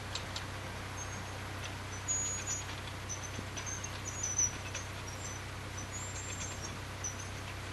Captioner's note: clicking noise of the lock gate paddle gear being raised - sound